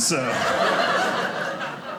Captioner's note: audience laughing